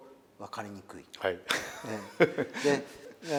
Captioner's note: laugh